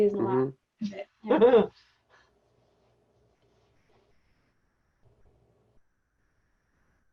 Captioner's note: lady laughs